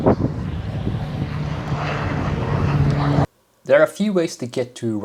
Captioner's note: airplane roaring